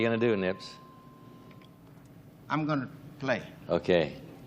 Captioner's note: bell dings